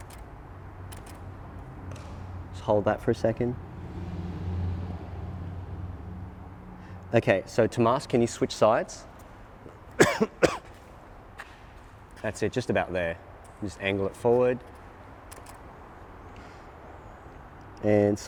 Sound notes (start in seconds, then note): 0.9 clicking; 9.9 coughing; 15.3 clicking